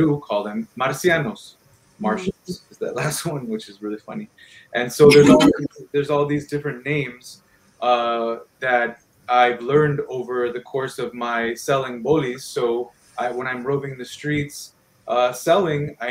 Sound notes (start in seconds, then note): 0.8 speaking in foreign language; 2.8 laughs